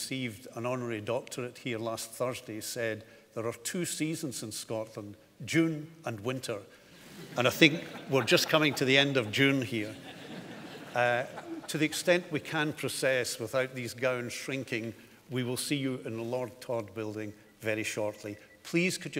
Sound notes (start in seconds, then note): 10.3 audience laughing